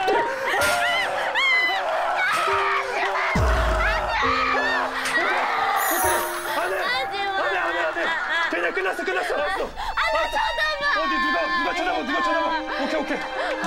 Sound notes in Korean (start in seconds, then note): 7.9 꺽다리&두부심장의 곡소리 화음